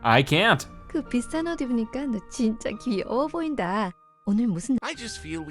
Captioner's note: speaking foreign language